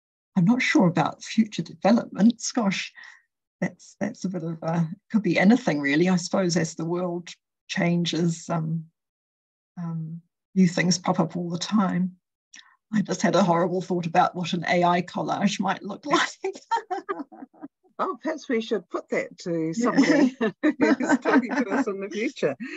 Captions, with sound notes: I'm not sure about future developments. Gosh, that's a bit of a — it could be anything, really. I suppose as the world changes, new things pop up all the time. I just had a horrible thought about what an AI collage might look like. [LAUGHS] Oh, perhaps we should put that to somebody who's talking